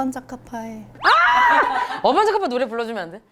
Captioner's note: squeal